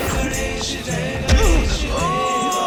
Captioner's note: screams